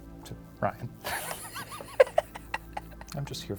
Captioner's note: laughing